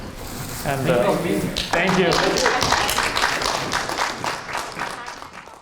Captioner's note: audience applauding